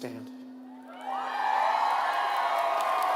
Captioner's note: applause